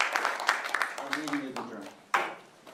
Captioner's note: applause